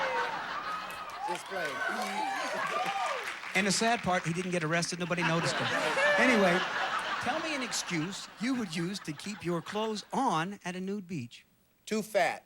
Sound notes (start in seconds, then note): 0.0 audience laughing; 4.9 audience laughing